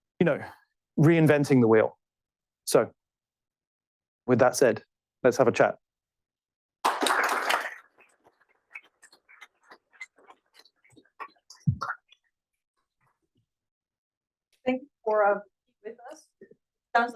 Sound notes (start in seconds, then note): 6.8 applause